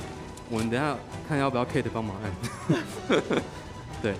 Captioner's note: laughing